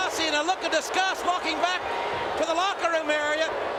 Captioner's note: crowd boos